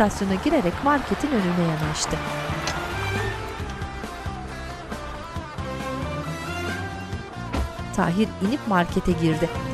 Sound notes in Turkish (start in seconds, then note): 7.5 Kapı kapanma sesi; 8.2 Müzik devam ediyor